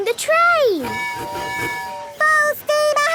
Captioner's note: tooting